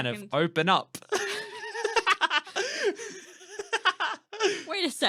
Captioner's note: laughter